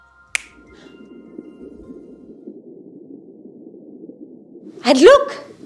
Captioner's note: clap, clap, clap, click; underwater sounds